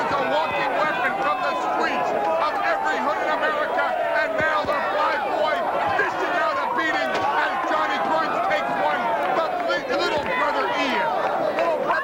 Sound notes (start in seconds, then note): 1.9 crowd chatter